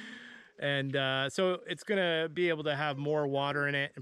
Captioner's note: laughs